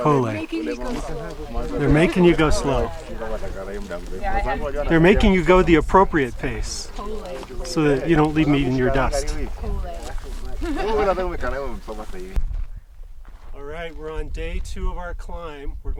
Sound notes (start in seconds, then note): 9.9 laughs